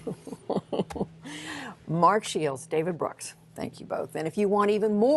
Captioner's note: laughter